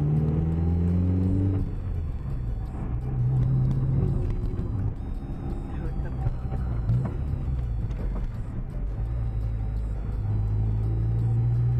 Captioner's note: sound of the engine